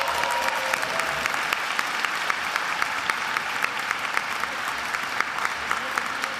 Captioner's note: attendees applauding and cheering